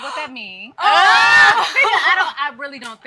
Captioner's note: moms laughing